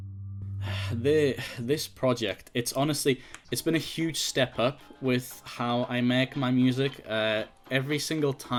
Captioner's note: sigh